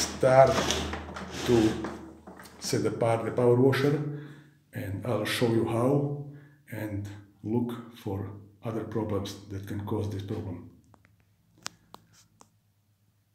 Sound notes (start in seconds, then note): 8.9 pulsating high-pressure cleaner